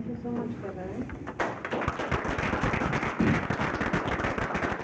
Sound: applauding

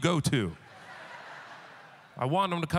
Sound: audience laughter

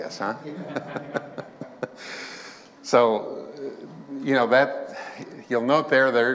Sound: chuckling

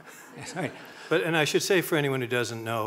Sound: laughing

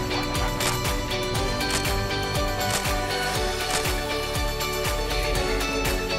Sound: camera shutter noises three times

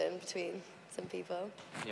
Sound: none

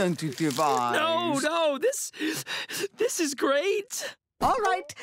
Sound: sniffling

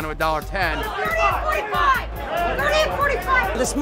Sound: yelling

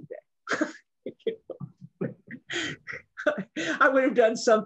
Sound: laughs

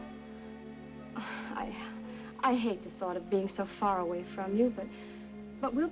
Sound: sighs

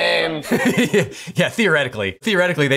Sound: chuckles

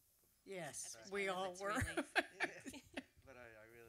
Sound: laughs

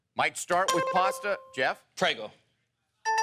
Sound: bell dings

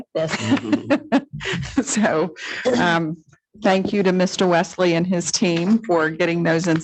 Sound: laughs

